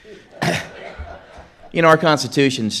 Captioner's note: audience laughs